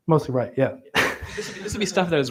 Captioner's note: laughter